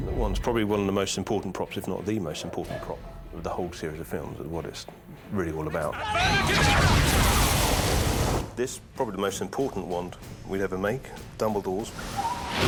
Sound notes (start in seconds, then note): 6.2 both shouting in foreign language